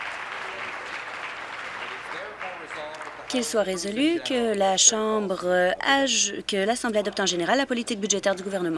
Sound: applause

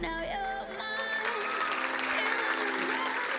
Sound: crowd applauding

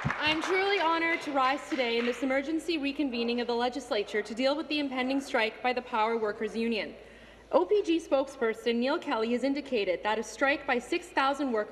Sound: applause

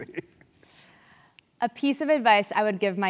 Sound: laugh

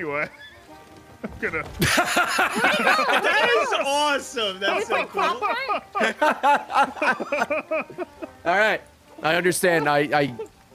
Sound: laughs

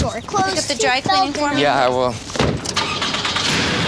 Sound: car engine starts

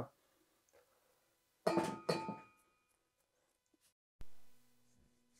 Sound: dish clanging

